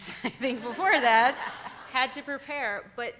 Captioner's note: all laughing